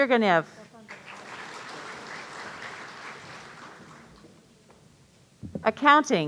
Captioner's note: audience applauding